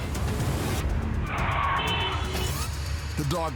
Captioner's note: vehicle honks